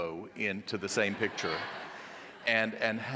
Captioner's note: audience laughing